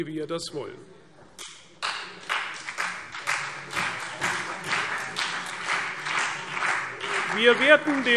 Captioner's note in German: Beifall CDU und BÜNDNIS 90/DIE GRÜNEN